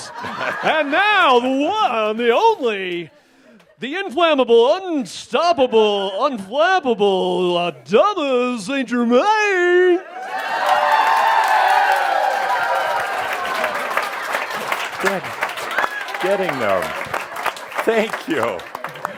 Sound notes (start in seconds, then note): 7.7 much audience approval and applause as Adamus “arrives” on stage